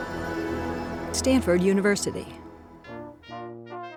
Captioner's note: voiceover; ceremonial brass quintet music